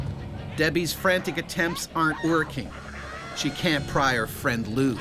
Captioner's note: voiceover